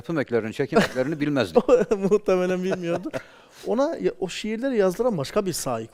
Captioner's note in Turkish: kahkaha